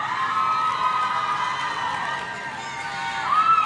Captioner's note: audience cheering